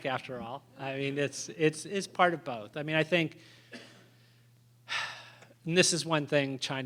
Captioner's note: sigh